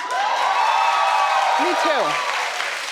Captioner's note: audience applauding and cheering